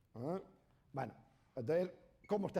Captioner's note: speaking spanish